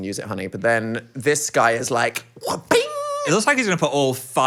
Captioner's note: vocalizing glove snapping